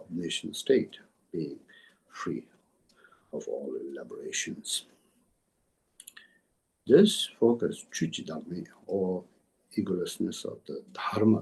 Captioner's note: tibetan